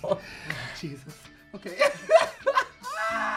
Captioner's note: laughs